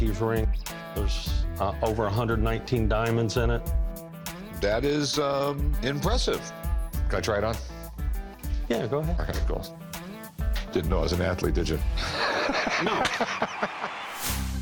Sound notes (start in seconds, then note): 12.0 laughs